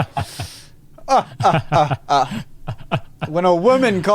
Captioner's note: both sarcastically laughing